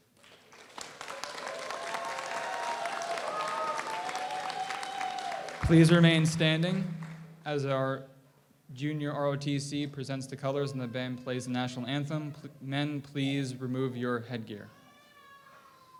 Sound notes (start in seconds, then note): 0.1 audience applauds; 3.3 audience cheers